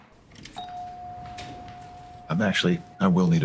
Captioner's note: bell chiming